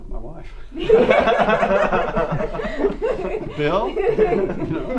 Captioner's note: group laughter